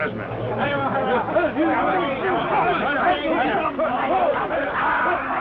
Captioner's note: Cat Worshipers chatter